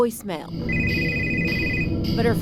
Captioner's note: phone rings